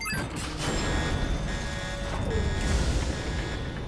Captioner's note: alarm blaring